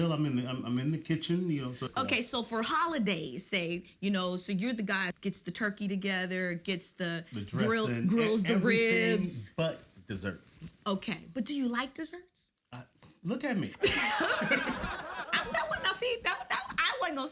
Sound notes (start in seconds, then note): 13.8 all laughs